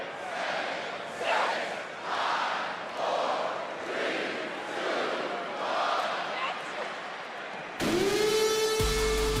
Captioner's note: crowd counts